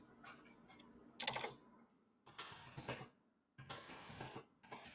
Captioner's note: keyboard clacking